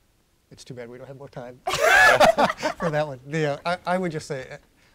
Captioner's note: laughter